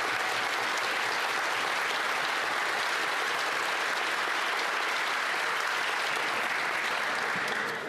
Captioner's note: applause